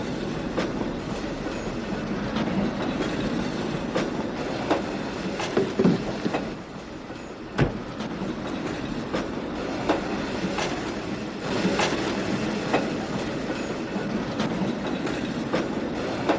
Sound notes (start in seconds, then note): none